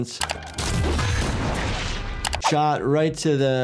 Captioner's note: gun fires